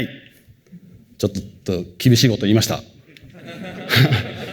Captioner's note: laughter